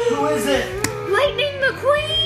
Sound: car revving noises

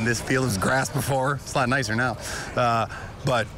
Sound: laugh

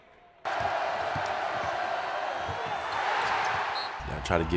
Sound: cheering crowd

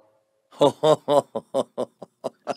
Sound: laughs

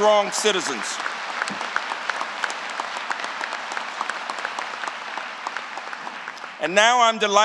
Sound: applause

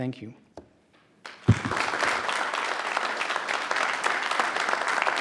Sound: audience applauding

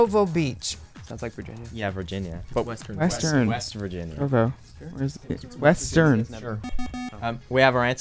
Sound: wispering

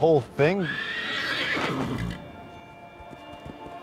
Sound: horse whinny

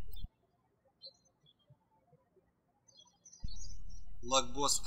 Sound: birds chirping

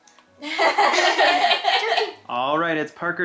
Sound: laughing

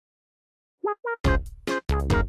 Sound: silent

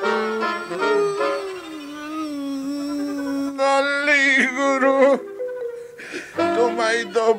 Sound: screams in pain

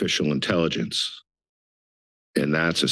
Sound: pause

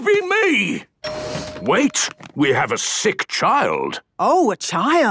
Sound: door dings open

